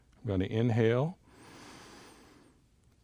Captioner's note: inhales